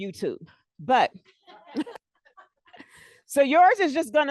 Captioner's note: laughter